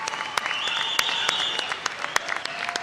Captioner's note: applause